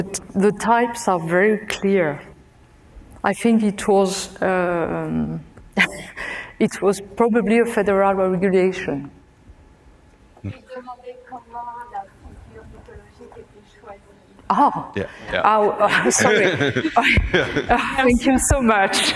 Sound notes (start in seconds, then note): 11.3 speaking french; 15.4 laughs